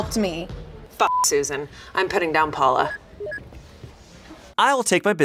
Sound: beep

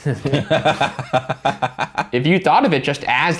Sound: laughing

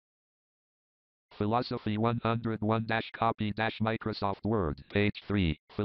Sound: JAWS screen reader voice

